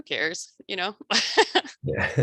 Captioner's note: laughs